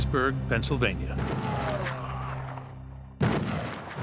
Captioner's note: gunshots